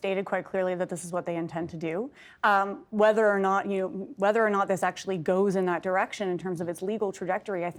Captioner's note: speaking in French